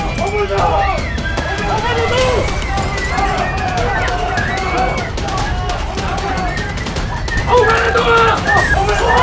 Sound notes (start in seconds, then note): 3.8 people clamoring; 3.8 suspenseful music